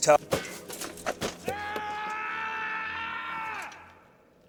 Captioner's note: thunk; screaming